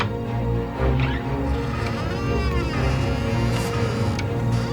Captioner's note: door creaking